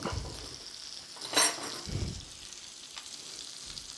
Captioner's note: fish sizzling